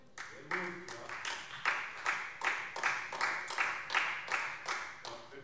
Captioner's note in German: Vereinzelter Beifall SPD